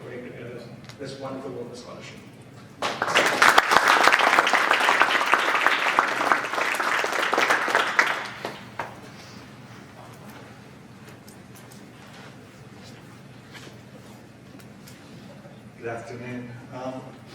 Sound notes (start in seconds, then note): 2.8 audience applauding